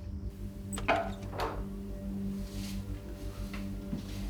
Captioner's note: door opening